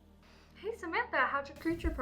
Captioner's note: voice on phone